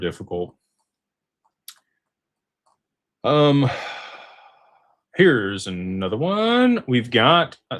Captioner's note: sighs